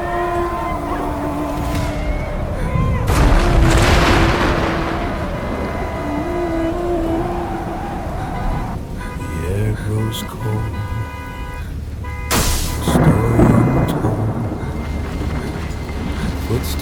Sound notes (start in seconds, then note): 0.0 devastating music; 2.6 distant thunder; 5.2 tragic music